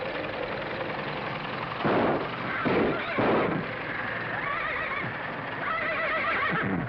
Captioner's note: engine backfires; horse whimpers